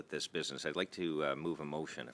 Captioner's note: speaking French